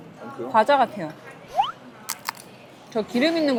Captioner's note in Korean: 바삭